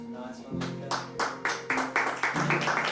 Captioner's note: all applaud